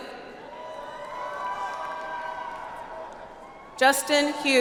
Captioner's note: audience applauds